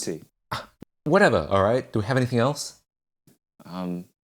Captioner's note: scoffs